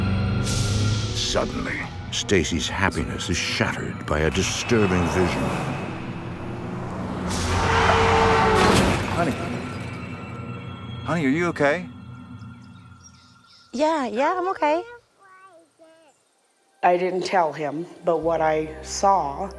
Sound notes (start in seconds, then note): 5.6 car engine zooming; 7.2 glass shattering; 7.5 car horn honking